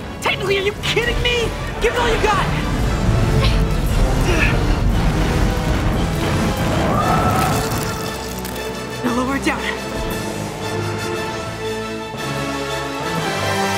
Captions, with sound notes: Technically, are you kidding me?! Give it all ya got! [grunting] Now, lower it down.